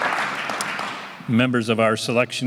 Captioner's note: applause